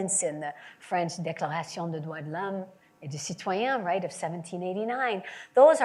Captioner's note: French language